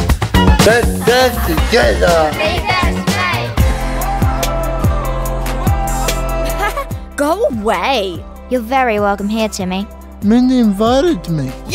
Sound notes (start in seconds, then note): 3.6 upbeat music; 6.4 laughs